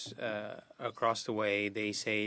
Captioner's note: speaking French